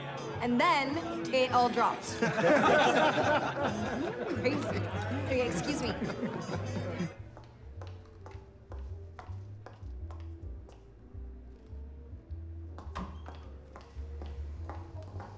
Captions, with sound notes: ...AND THEN, THEY ALL DROPPED. [MEN LAUGHING] CRAZY. OKAY, EXCUSE ME.